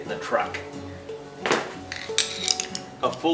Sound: thudding; clicking

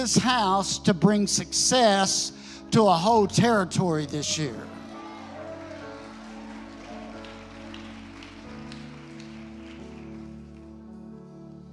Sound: congregation cheering

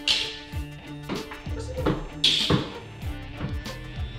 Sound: choking

